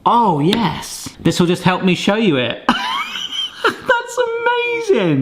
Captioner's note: laughs